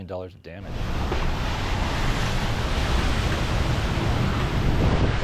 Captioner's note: wind gusting